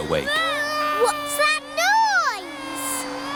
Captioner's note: vacuum cleaner whirring